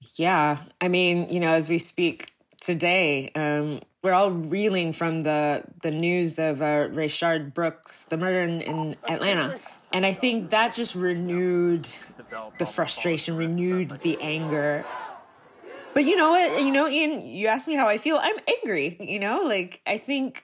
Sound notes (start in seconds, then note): 14.7 people chanting